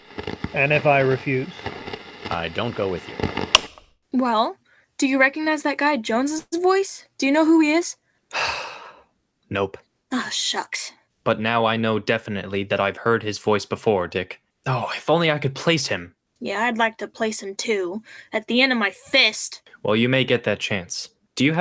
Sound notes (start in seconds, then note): 3.4 click of switch ... recording out; 8.3 sighs